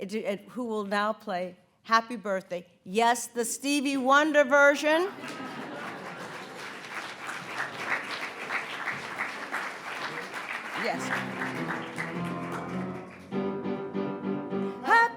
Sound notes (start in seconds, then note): 5.1 audience laughs